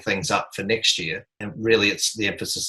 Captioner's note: chuckling